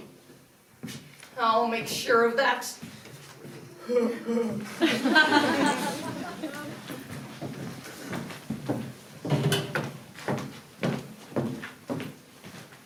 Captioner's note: Oliver laughs